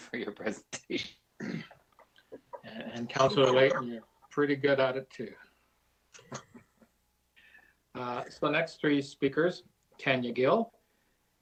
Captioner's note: laughter